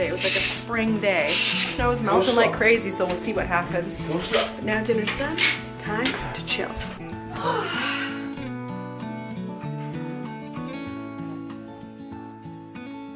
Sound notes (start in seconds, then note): 7.2 sighs; 9.1 relaxing guitar strumming